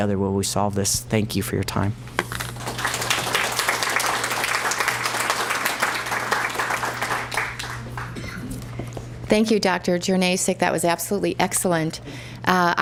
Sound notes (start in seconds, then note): 2.5 applause